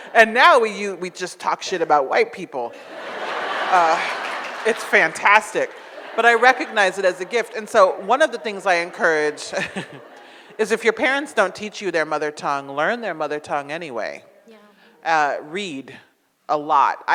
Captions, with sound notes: And now we just talk shit about white people. (audience laughs) It's fantastic, but I recognize it as a gift and so one of the things I encourage is if your parents don't teach you their mother tongue, learn their mother tongue anyway. Read a lot.